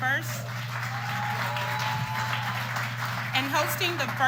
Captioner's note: applause